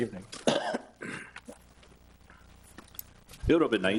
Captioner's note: coughs